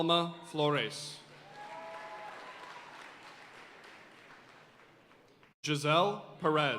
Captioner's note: audience cheering and applauding